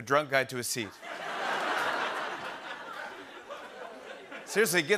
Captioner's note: laughter